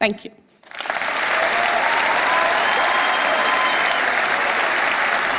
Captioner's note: applause